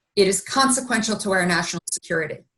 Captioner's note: none